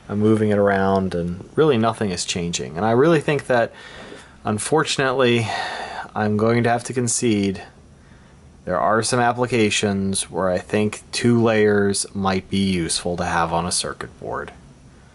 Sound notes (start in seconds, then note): 3.8 sigh